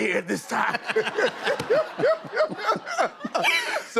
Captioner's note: laughter